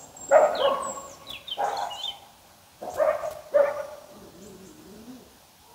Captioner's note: barking